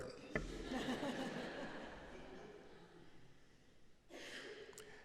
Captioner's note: audience laughing